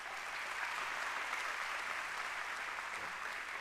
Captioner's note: applause